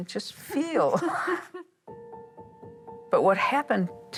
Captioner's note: laughing